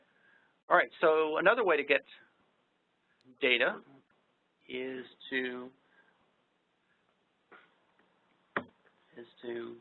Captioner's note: microphone pops